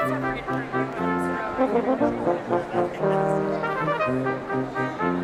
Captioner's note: none